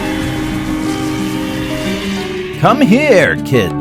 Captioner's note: gasps; wind whirring